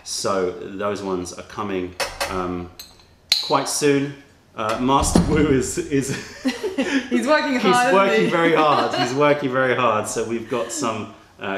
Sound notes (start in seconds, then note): 6.0 laughter